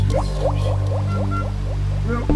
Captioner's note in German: Hupe